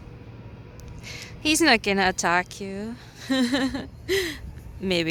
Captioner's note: laughs